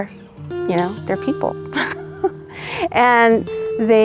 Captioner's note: laughter